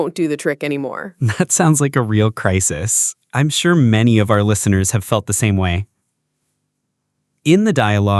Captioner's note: laughs